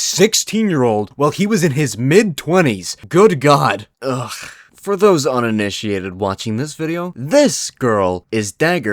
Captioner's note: sigh